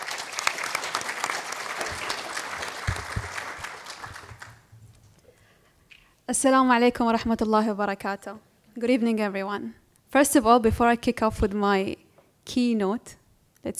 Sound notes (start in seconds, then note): 0.0 applause; 6.6 speaking in foreign language